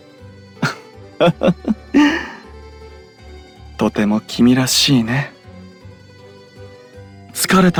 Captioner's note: laugh